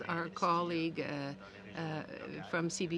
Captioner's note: speaking french